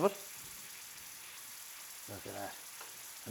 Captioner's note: pan sizzles